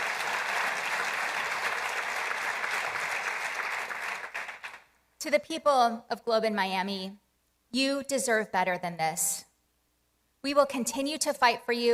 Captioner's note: applause